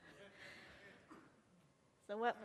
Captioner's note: audience laughing